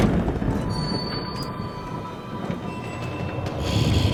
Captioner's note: door creaks